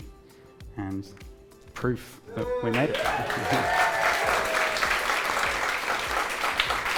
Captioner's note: audience clapping